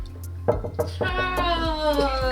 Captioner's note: fist knocks; laughing